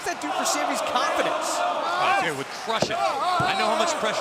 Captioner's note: crowd cheering